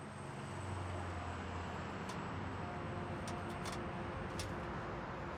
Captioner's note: cars driving at distance